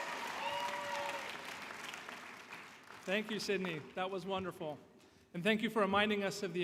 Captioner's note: applause